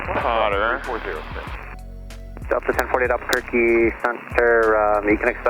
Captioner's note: radio talks over